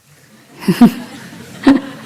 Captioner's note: laughs